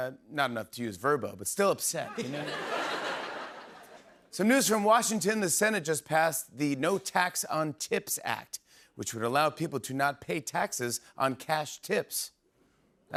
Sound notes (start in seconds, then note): 2.0 laughter